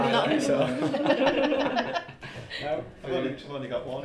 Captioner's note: laughter